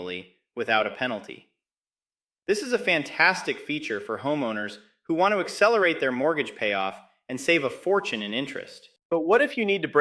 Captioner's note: excited